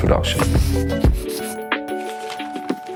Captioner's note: pen scribbling; paper rustling